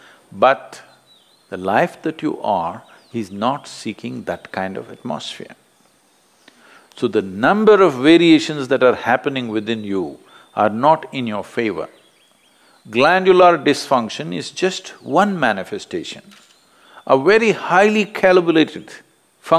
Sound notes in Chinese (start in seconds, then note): none